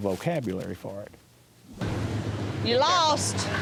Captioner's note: engine revving